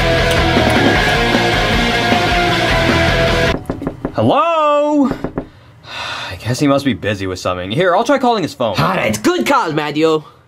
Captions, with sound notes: (wood knocking) Hello! I guess, he must be busy with something. Here, I'll try calling his phone. - All right. Good call, Mario.